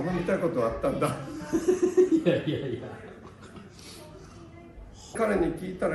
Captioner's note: laughs